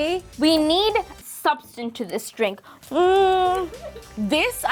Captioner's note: hums